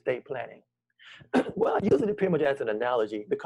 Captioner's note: clears throat